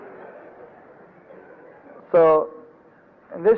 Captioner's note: devotees laugh